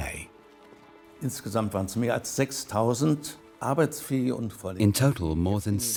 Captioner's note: speaks in foreign language